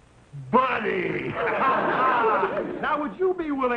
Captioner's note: audience laughing